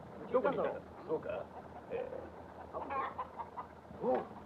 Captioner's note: soldiers speaking Japanese